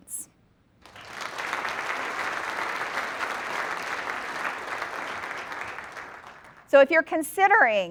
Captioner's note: applause